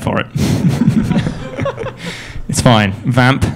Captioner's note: laughing